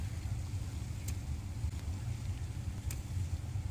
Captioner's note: net thwacks